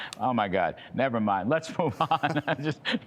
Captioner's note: laughter